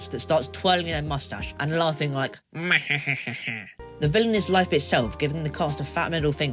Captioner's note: evil laugh